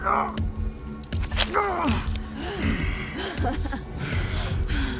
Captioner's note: Tinman groaning; Tinman continues groaning; metal clanging; Dorothy laughing